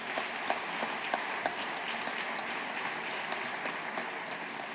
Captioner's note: audience applauding